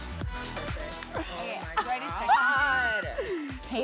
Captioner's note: shrieks